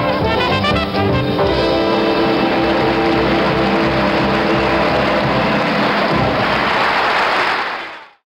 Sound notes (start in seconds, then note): 1.4 audience applauds